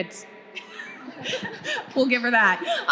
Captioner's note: panelist laughing